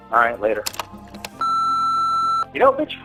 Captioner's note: answering machinie tone